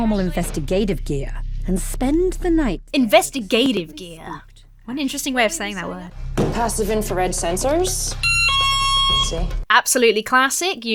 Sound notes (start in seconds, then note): 8.2 alarm blares